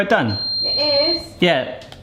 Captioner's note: timer beeps